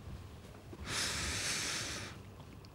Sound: sigh

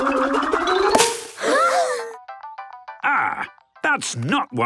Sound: all gasping

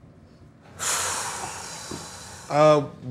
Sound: exhales

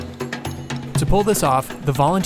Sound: voiceover

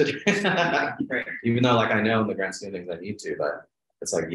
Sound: laughs

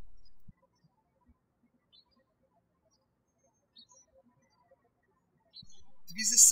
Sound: birds chirping

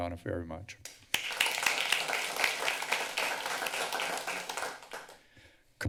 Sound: applause

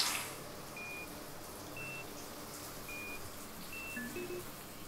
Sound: container beeps

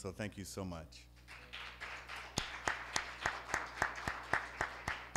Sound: applause

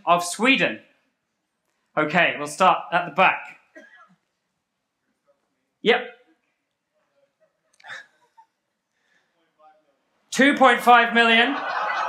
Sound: laugher

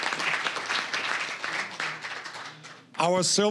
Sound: applause

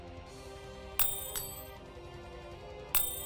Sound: coin bounce

